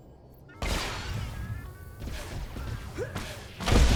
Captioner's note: gun firing